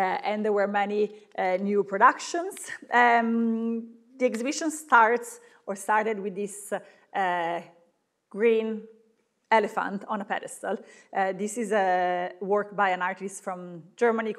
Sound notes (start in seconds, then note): none